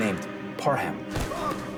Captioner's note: horse neighs; thud